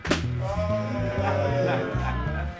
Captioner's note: people groan